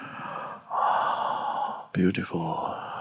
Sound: Eckhart exhaling

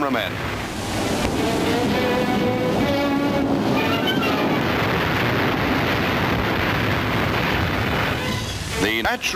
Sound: music, plane sounds, and explosion noises

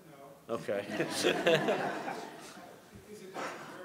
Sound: laughter

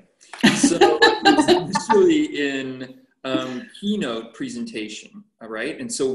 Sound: laughter

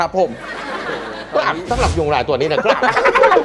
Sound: speaking with an accent

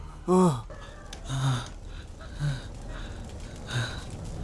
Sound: sighs

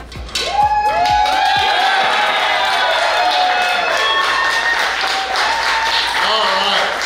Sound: cheering & Clapping

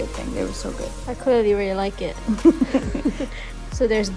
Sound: laughs

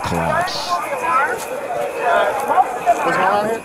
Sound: background talking

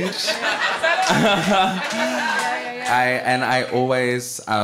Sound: audience laughing

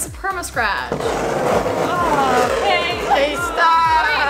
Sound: loud scraping

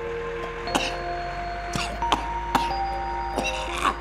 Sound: hacking cough

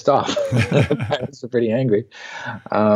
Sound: laughing

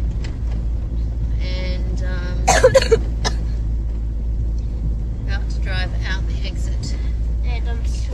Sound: coughs

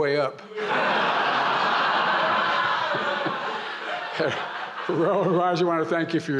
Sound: laughter

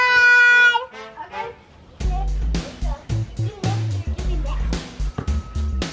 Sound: kids shout and talk

